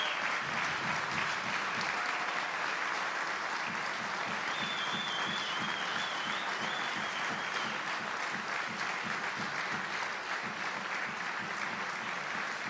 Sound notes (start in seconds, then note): 2.3 applause